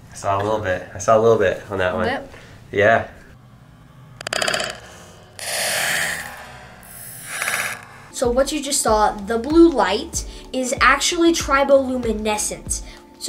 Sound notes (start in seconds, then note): 5.3 crackling